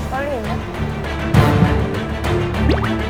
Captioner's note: heart beating